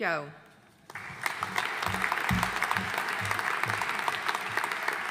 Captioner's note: audience applauding